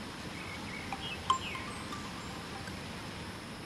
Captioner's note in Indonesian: Dering HP berbunyi kembali